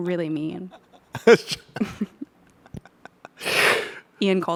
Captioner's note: laughs